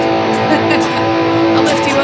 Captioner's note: laughing